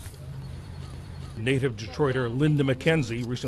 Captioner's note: voice-over